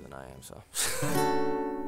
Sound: laughs

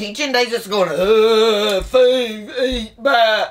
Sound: zombie moans

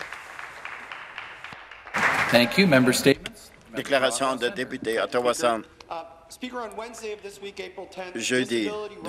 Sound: some Applause

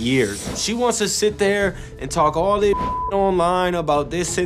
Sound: beep

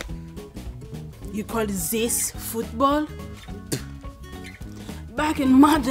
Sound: spits

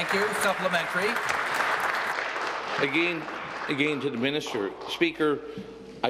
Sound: applause

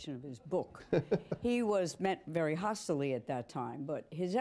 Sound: laughter

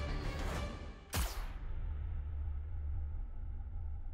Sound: gun firing

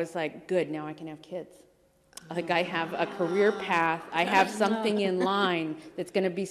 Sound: laughter

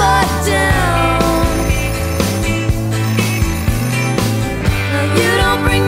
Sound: phone ringing

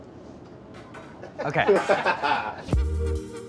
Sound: laughing

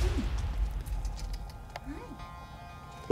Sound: tongue clicks

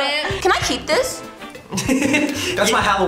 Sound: laughs

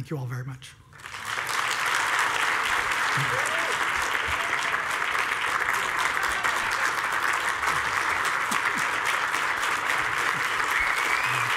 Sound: applause

